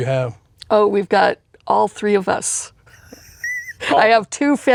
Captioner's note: laughs